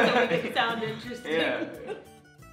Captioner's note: laughter